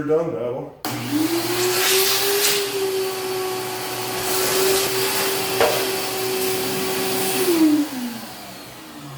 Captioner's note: vacuum runs